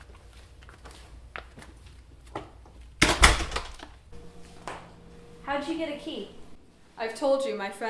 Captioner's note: footsteps, door closing